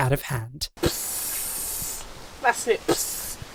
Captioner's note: hissing; hisses